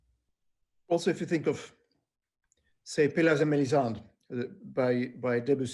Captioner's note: speaking foreign language